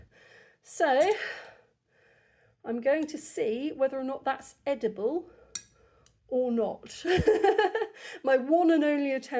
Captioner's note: sigh; laughter